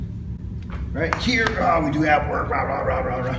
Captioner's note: smacking